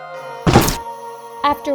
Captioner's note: chop!